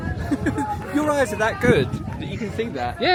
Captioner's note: laughs